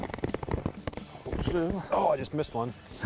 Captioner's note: fish flapping